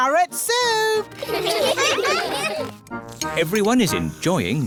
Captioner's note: all giggle